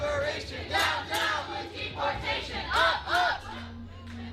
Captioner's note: crowd chants